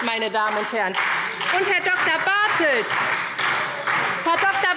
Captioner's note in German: Lebhafter Beifall SPD und Freie Demokraten